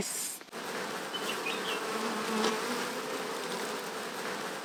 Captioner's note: bees softly buzzing